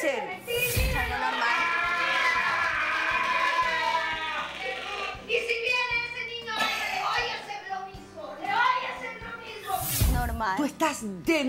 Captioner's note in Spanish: Gritos